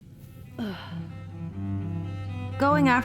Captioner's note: sigh